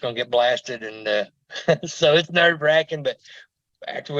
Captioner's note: chuckles